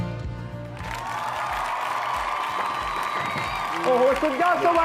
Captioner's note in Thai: เสียงเอฟเฟกต์ปรบมือ